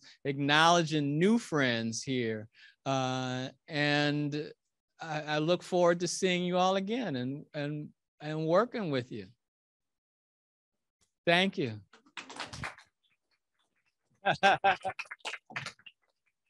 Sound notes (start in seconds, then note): 11.9 audience clapping